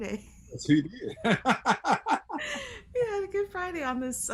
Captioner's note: laughing